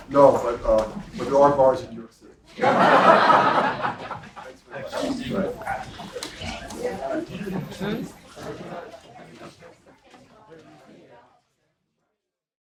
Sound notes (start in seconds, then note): 5.1 laugh